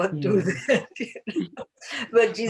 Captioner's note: laughs